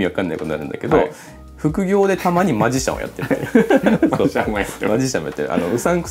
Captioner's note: laughs